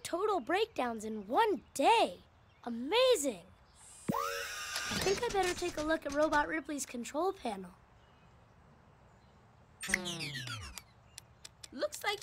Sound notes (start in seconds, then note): 4.4 power whirs, gadget clatters